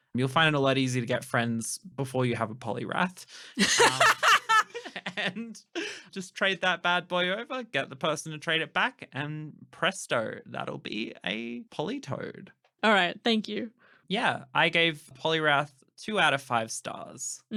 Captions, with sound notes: You'll find it a lot easier to get friends before you have a Poliwrath. [cracking up laughing] [laughing] And, just trade that bad boy over, get the person to trade it back and presto! That'll be a Politoed. Alright, thank you. Yeah. I gave Poliwrath two out of five stars.